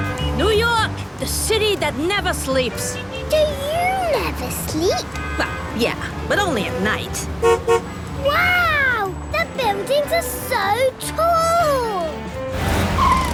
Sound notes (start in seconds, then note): 0.0 upbeat music, honking; 7.3 honks